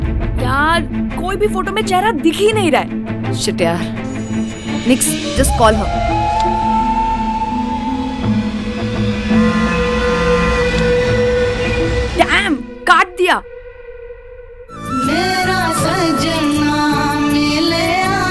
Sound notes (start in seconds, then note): 9.1 Phone vibrates; 14.7 Punjabi song playing